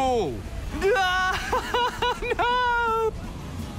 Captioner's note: chuckles